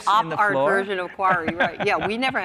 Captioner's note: laughs